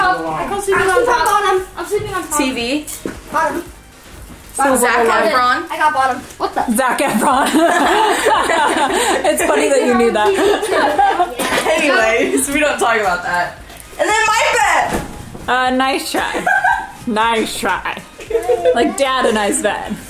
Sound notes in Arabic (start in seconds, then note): 7.1 يضحك; 16.3 يضحك